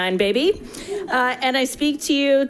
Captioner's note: attendants laughing